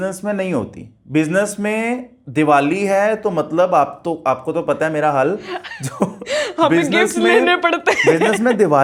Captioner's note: laughs